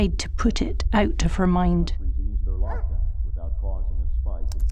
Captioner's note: background sound effects